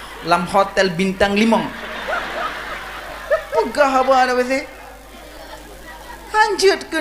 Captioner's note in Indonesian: tertawa